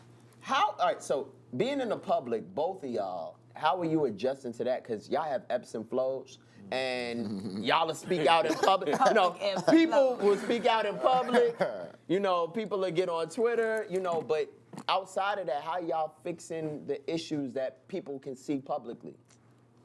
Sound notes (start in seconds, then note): 7.1 laughing